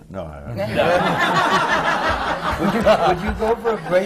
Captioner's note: laughter